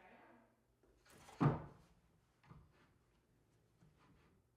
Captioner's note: board thuds